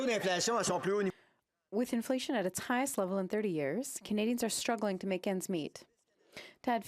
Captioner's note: speaking French